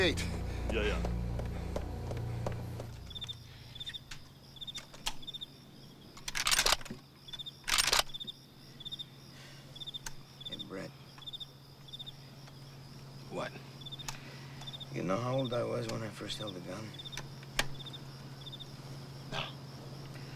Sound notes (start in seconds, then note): 3.3 crickets chirping; 6.2 gun cocks